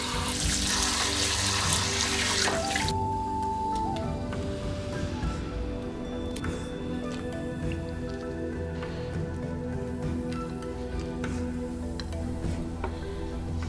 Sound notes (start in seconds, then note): 0.0 SFX: Water running; 4.0 SFX: Cutting